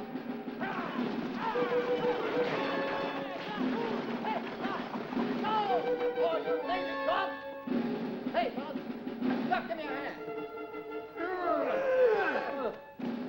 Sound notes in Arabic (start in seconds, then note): 0.0 موسيقى درامية مشؤومة; 0.2 يصرخ السائق على الخيول; 3.8 صراخ غير واضح; 11.6 الرجال يتذمرون